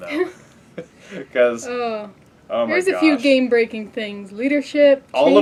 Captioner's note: laugh